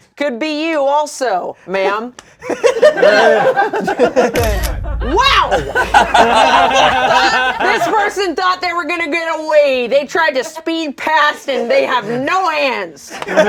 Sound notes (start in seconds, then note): 2.4 laughter; 4.3 camera snaps; 13.0 laughter